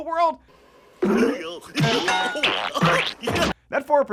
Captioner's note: thunking and chuckling